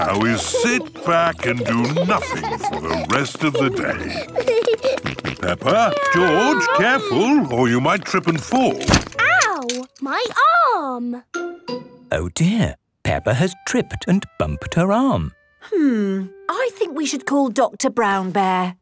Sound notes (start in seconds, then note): 8.7 thumps